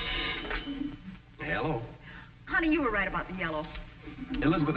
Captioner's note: telephone ringing